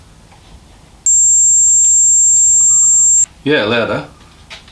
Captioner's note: high frequency simulation